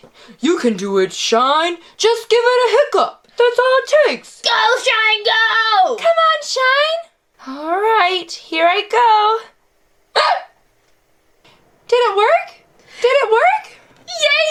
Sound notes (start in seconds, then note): 10.1 hiccups